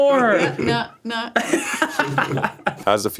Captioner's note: laughs